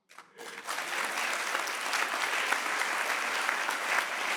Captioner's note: audience clapping